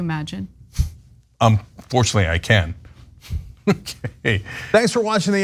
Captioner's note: laugh